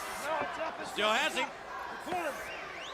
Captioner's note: crowd chatter